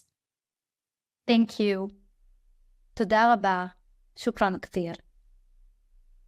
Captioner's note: speaking foreign language